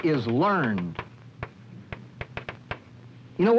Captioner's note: chalk tapping slate board